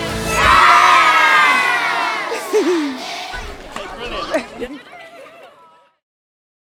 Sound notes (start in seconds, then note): 2.3 person chuckles; 3.7 people chattering